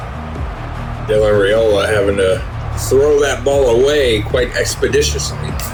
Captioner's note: crowd Noises